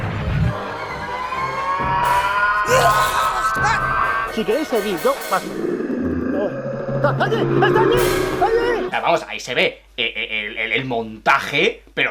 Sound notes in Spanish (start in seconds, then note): 1.1 gruñido lejano; 2.1 chico gritando